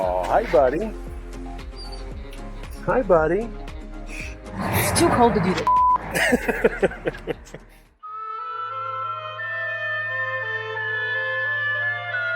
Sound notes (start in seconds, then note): 5.6 beep; 6.1 laughs; 8.5 mysterious electronic music